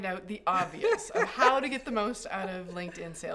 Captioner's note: chuckles